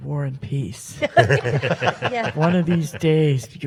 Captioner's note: panel laughs